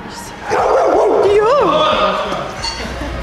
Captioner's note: Bellen